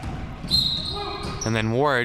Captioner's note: whistle chirping